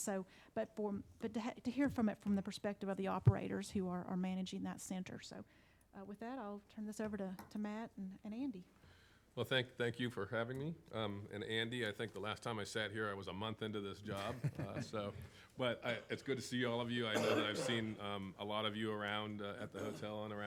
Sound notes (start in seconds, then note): 14.2 laughs